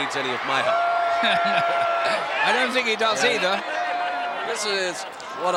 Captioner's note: laugh